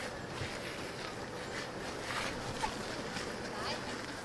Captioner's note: feet shuffling